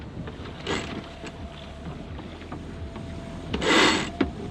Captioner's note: cranking noise